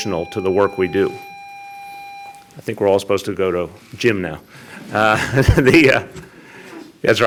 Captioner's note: loud beep